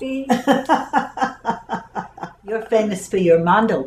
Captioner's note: laughter